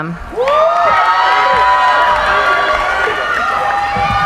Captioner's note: cheering